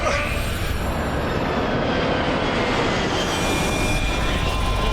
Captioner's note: wind whistling